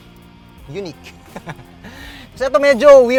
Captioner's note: laughs